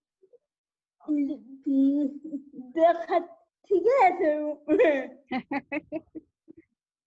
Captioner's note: laughs